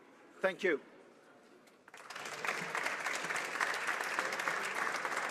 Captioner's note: speaking alternate language